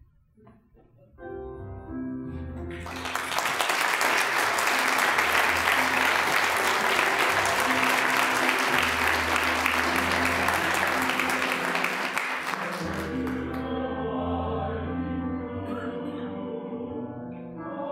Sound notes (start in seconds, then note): 1.2 tranquil piano music; 2.7 applause; 12.9 choir singing